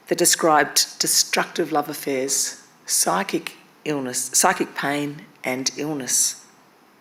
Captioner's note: none